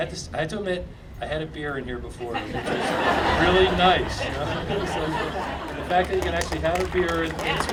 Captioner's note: audience laughing